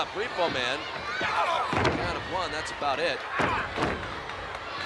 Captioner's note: body thudding